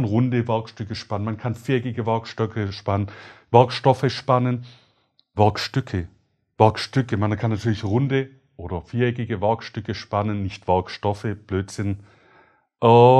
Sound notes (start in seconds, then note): 7.1 ranting about himself in German